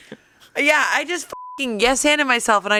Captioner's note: beep